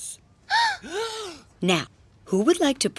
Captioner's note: gasping